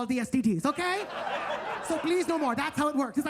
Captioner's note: attendees laughing